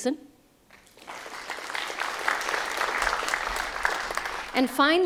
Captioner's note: applause